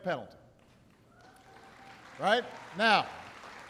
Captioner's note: applause